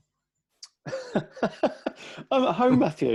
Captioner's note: laughs